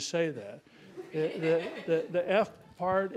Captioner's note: laughing